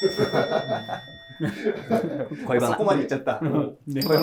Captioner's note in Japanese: スタッフ：笑い